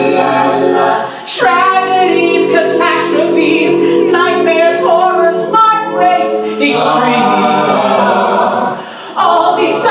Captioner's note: ooooooh-aaaah